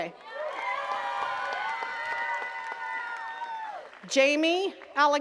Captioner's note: attendees cheering and clapping